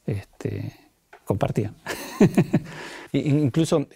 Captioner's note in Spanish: risas